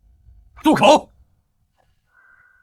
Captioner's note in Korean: 침묵